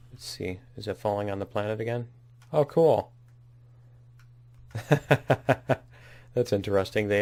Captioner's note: laughs